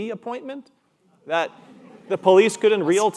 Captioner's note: audience laughing